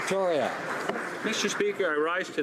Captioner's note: applause